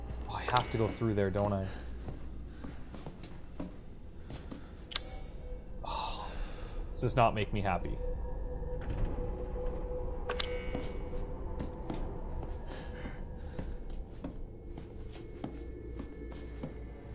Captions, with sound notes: I have to go through there, don't I? [sighs] This does not make me happy.